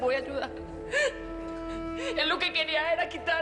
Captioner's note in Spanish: Sollozos